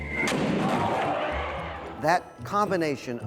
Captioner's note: crowd gasps